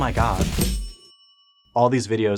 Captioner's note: bright ding